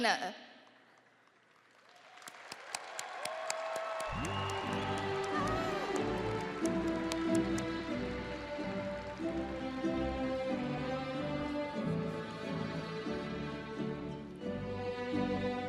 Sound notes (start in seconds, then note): 3.7 audience applauding and cheering